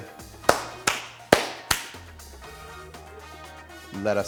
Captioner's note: loud clapping